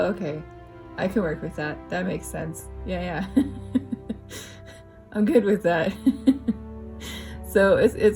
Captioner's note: laugh